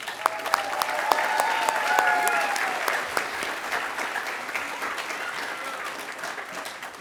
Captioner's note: applause